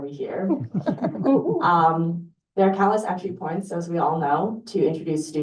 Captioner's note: chuckles